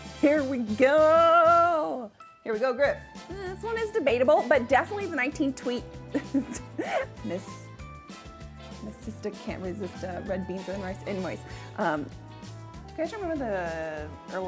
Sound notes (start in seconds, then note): 6.1 laughs